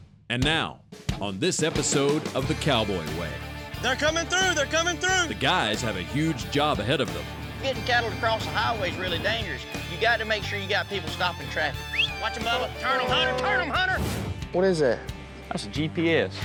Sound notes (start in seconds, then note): 11.8 whistling; 14.0 horns honking